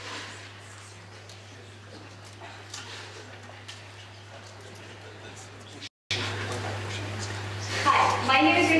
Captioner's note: background chatter